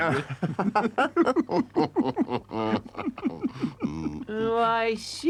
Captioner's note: Rate and Mole laugh